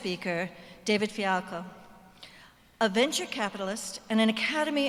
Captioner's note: none